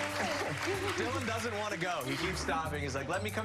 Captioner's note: applause